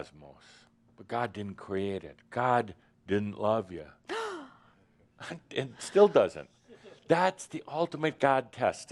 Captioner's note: gasps